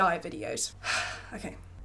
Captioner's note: sighs